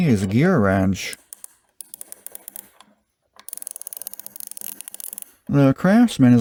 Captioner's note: smooth ratchet clicks